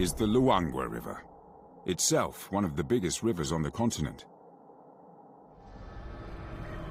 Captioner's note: birds chirping; peaceful music